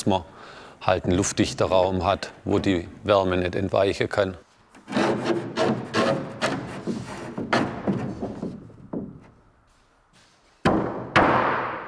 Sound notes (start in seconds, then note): 4.7 sawing noise; 10.6 hammering